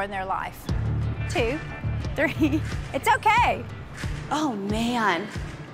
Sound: laughs

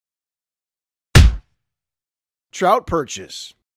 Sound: punch sound

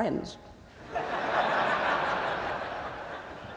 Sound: laughter

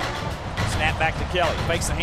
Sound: voiceover

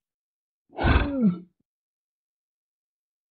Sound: Keukegen roars

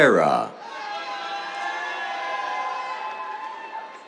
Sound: cheers

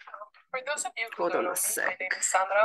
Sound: background chatter

